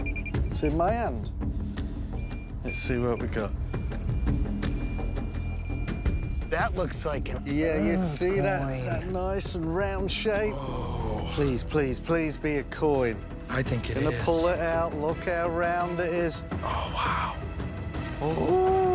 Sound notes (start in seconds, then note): 2.2 rapid beeping; 3.5 tense music playing; 16.1 whispers